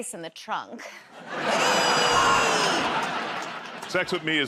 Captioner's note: laughter